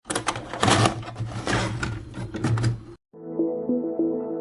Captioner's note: VHS tape inserted